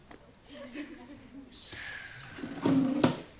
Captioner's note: exhales